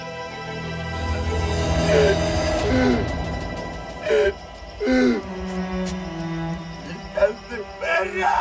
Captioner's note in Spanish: Sollozos